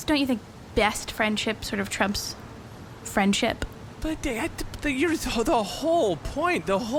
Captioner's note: stuttering